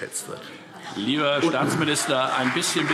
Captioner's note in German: Vereinzelter Beifall CDU und BÜNDNIS 90/DIE GRÜNEN